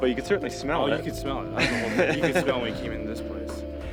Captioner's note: laughing